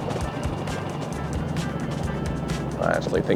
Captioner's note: boat engine roaring